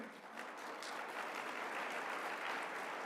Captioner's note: applause